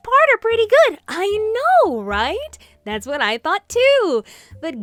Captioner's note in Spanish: alegremente